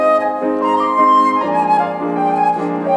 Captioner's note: none